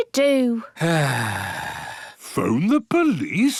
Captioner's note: sighs